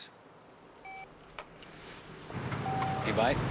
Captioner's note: phone beeps